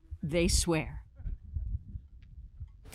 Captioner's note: speaking Foreign Language